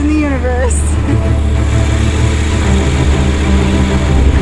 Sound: motorcycle engine

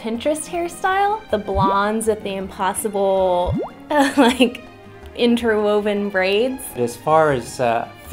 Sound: chuckles

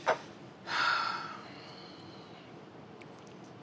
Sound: sighs

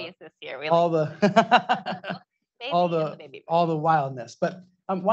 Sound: laughs

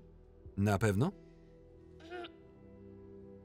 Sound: sighing; clearing throat

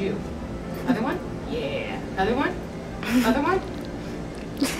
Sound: laughter

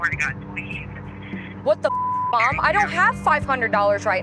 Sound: beep

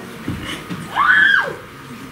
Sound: screams

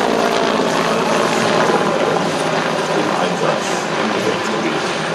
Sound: in German

